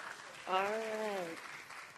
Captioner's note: applause